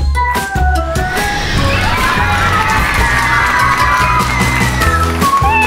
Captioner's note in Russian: Звук взлетающей ракеты